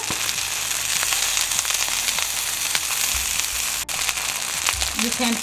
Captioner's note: sizzling continues